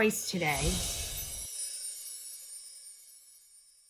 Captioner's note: whooshing